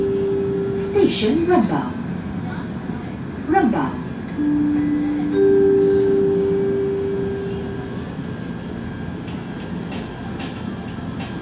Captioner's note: train announcement